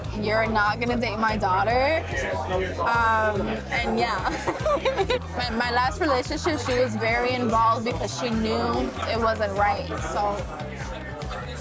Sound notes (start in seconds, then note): 4.0 laughs